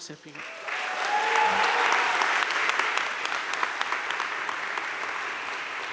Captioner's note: audience cheering and applauding